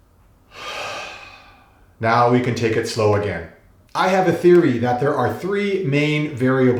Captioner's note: sigh